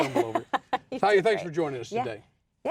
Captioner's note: laughing